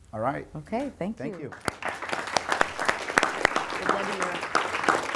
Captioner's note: applause